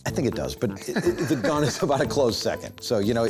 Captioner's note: laughs